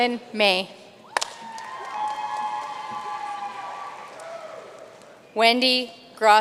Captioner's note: audience cheering and applauding